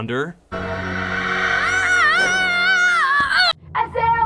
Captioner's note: screaming